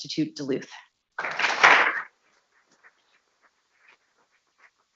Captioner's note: people clapping